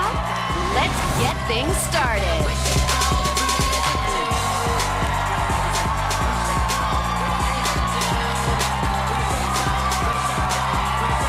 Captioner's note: cheers and applause